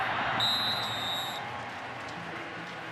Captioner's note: whistle